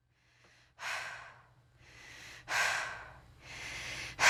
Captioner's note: person panting